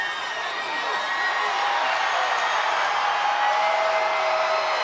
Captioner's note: crowd cheering